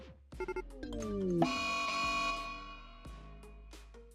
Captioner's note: Rimworld urgent event sound; warning sound